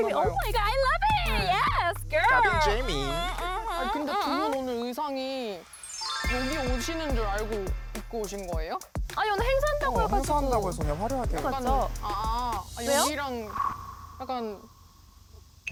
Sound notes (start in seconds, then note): 5.6 an unusual sound effect